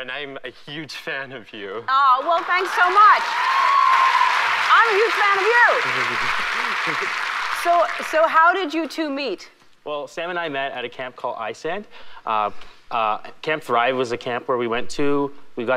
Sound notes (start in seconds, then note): 2.0 audience applauds